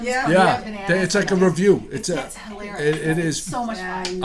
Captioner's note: voiceover